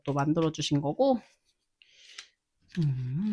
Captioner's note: humming♫ of happiness